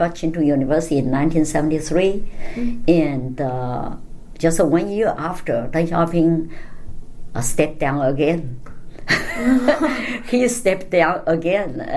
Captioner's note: all laugh